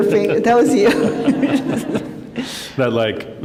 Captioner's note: laughter